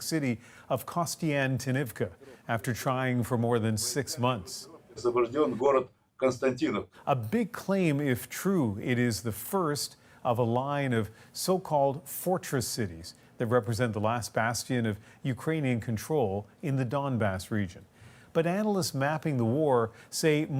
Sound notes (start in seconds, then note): 12.2 speaking alternate language